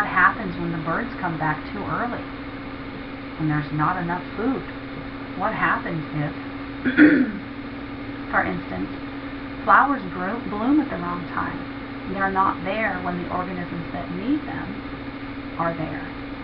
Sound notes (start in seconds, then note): 6.8 clearing throat